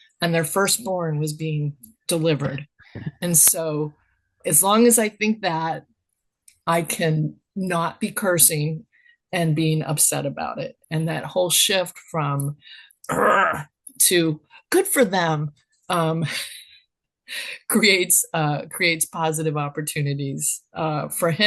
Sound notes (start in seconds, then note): 16.4 laughs